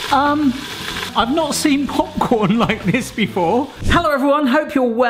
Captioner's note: laughing